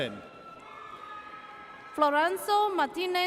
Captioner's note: audience cheers